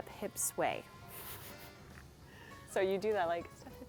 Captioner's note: giggles